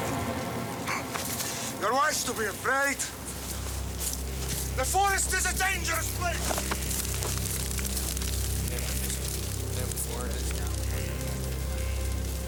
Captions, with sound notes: - (speaking in foreign language) The forest is a dangerous place! (men chattering)